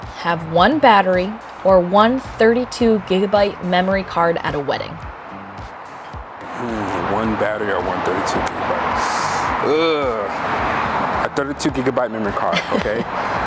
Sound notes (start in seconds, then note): 9.1 inhales sharply; 12.4 laughs